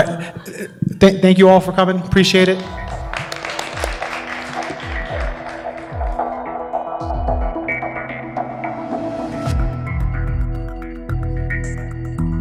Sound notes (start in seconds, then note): 3.9 applause; 6.7 closing music